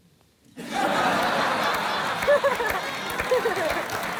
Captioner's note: laughter